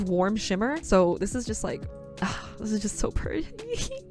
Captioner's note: sighs